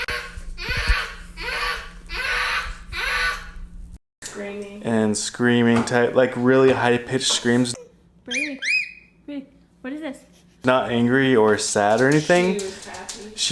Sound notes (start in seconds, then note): 0.1 yelling; 9.2 high-pitched scream